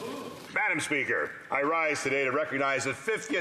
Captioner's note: speaking French